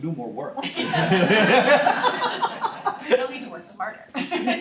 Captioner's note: laughter